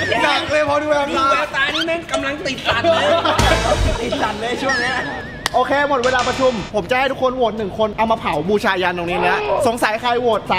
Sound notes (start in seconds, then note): 2.8 laughs